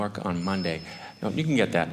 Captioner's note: phone rings